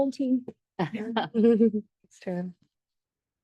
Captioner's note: board members laugh